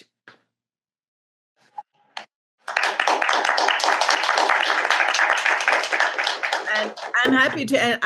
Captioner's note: clapping